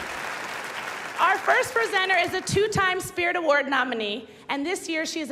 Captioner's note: cheers and applause